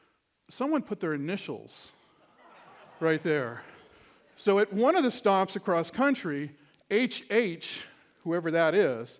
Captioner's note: laughter